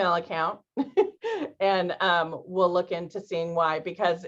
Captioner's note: laughter